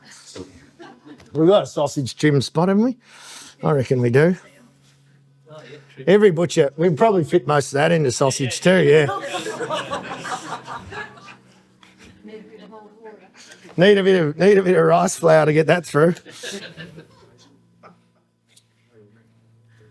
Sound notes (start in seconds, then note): 10.4 audience laughing